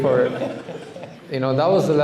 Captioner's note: laughter